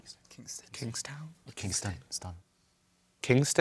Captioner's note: whispering